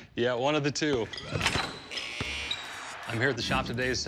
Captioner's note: shoes squeaking, basketball buzzer blares